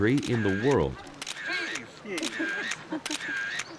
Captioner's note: people laughing and talking; camera shutter clicking